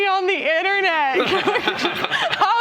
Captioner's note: laughter